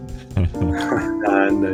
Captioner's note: laughing